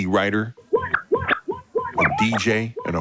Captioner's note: records scratching